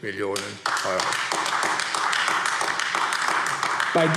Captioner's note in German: Beifall AfD